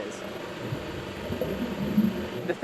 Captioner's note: underwater sounds